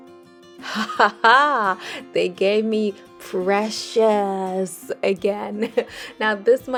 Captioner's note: victorious laugh